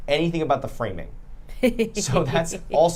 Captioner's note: laughing